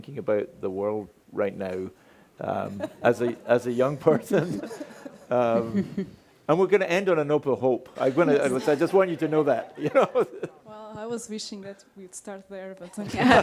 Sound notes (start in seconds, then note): 8.0 laughs